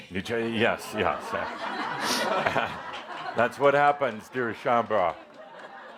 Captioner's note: laughter because is wearing a hat that looks like a raven